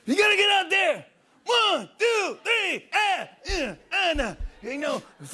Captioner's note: grunting